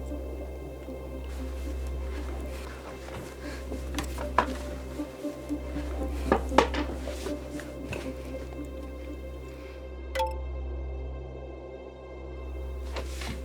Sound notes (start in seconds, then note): 10.1 computer chimes